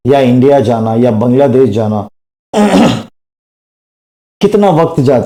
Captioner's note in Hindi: गला साफ़ करने की आवाज़